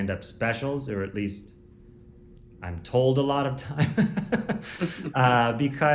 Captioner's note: laughs